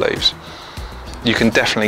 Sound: deeply inhaling

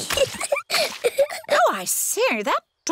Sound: giggles

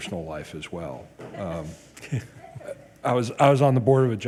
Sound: all laugh

